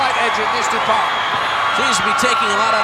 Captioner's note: audience cheering